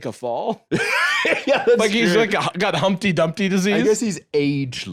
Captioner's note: laughing